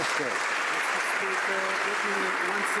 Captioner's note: some Applause